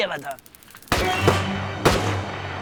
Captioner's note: repeated gunshots